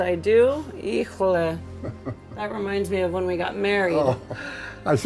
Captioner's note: speaking spanish